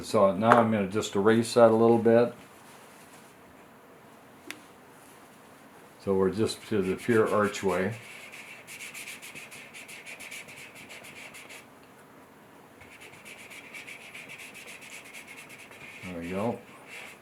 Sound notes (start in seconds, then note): 8.9 eraser scratching